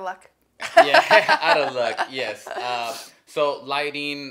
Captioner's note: laughs